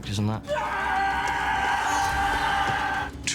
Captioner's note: screaming